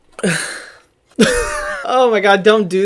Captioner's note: laughs